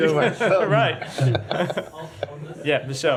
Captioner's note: laughter